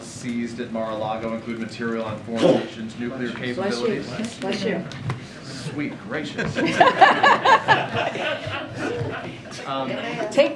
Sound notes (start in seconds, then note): 2.4 A reporter sneezes; 9.1 laughter